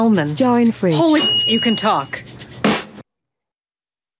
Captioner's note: ding